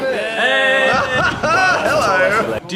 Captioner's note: laughs